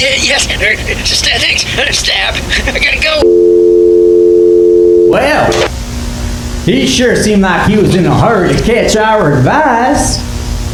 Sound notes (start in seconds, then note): 0.1 rodney phone voice; 3.2 hang up tone